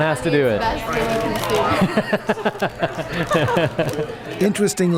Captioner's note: people talking and laughing